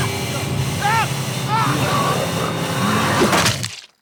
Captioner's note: growling